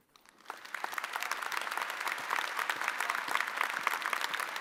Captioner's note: audience applauding